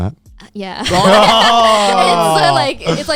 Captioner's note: boys groaning